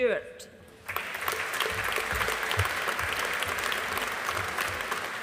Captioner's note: audience applauding